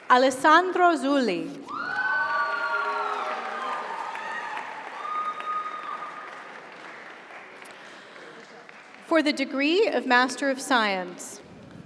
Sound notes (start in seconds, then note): 1.7 audience cheers; 2.0 audience applauds